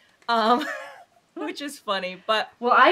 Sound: chuckling

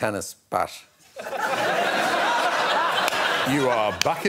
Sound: audience laughing

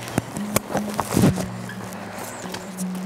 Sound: footsteps

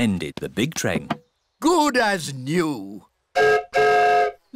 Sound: whistle blows

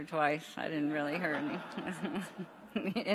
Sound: audience laughs; laughs

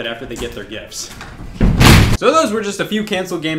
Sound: loud fall

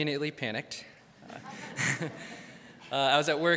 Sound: crowd laughs

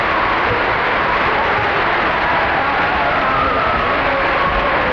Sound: audience applause

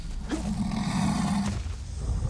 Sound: louder deep growl

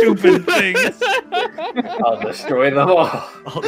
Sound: laughter

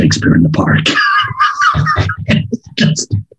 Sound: laughs

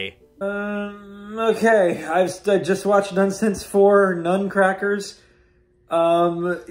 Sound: groans

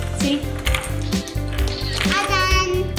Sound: camera shutter clicks

